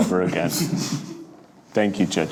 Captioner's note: laughs